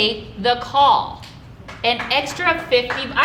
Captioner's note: audience applauding